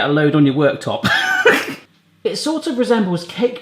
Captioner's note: laughing